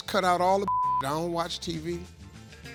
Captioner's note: beep